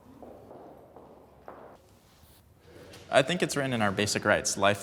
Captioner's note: footsteps approaching